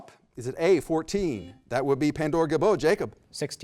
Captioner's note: beep